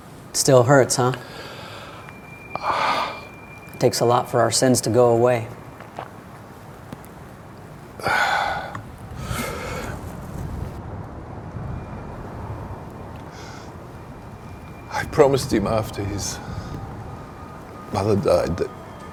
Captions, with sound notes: - It still hurts, huh? (Jim exhales) It takes a lot for our sins to go away. (Jim sighs) - I promised him, after his mother died that